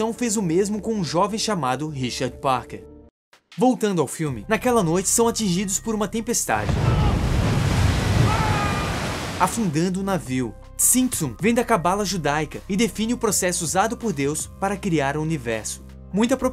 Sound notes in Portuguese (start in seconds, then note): 6.6 Sons de tempestade